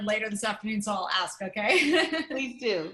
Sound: laughter

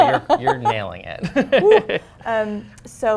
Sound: laughter

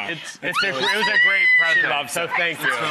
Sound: excited screaming

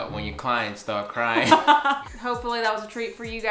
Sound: laughs

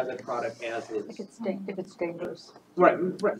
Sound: indistinct chatter

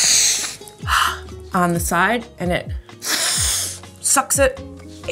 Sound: snorts; snorts

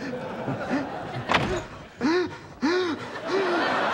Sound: chuckling nervously; gasping

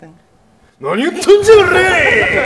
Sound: speaking in foreign language; laughing

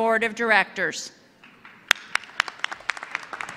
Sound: applause

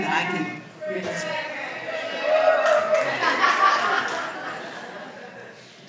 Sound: audience yells out

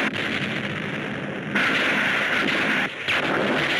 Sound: explosion booms; rockets whooshing

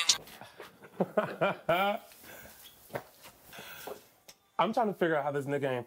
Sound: Tyrone laughing

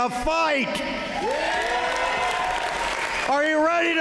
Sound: applause

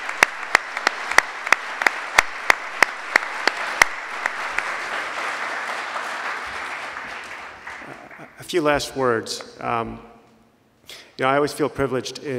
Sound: applause

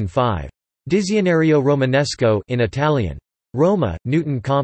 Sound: in Italian

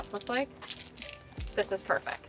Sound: book cover crinkles

